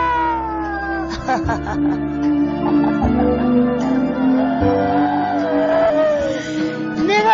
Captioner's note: paradoxical laughter